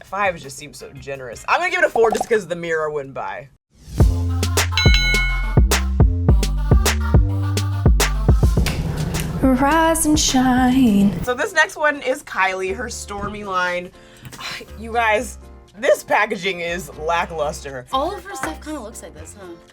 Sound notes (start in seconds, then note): 4.7 upbeat music; 4.8 boxing bell ringing; 9.0 singing